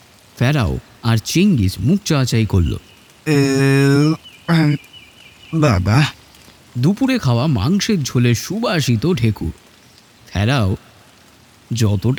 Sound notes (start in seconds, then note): 3.2 burps